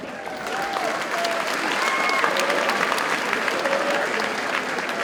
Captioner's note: audience cheers and applauds